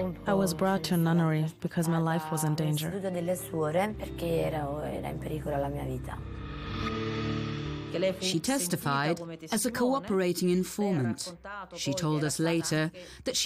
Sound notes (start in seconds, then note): 3.4 speaking in Italian